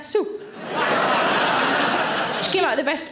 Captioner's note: audience laughing